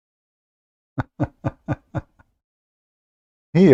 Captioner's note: Ketawa